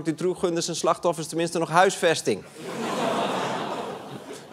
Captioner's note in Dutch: gelach